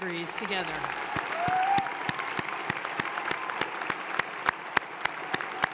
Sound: audience applauds and cheers

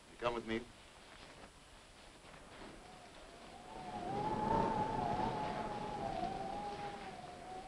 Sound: rain pattering; wind howling

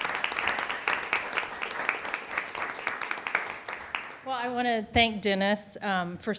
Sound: applause

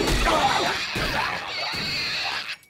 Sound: grunting; screeching; thudding

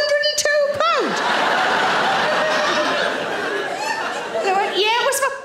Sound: audience laughing

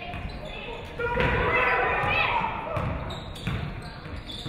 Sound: audience cheering

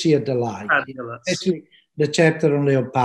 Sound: speaking in foreign language

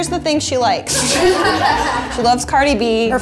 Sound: crowd laughing

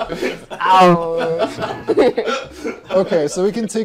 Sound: non-Committal Grumbling

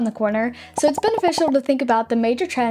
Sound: icons popping

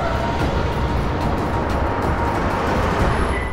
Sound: tires screeching

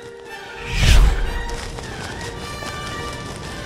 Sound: impact

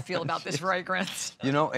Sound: laughter

